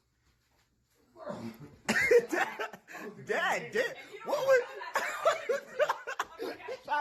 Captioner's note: Randy laughing off-screen